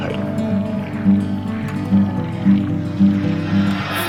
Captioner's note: watery sounds play over title